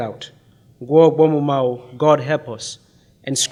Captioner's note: speaking in foreign language